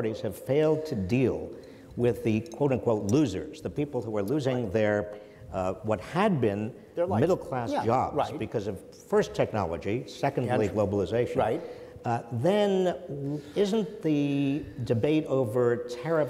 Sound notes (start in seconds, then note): none